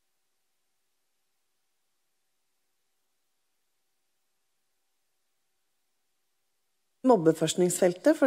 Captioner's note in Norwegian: Lyd mangler